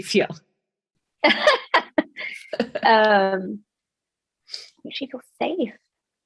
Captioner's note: both laughing